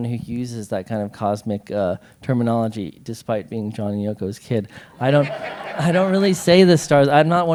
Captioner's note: laughter